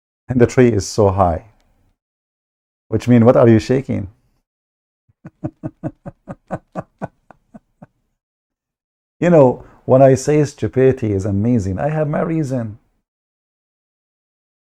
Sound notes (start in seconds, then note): 5.2 Ketawa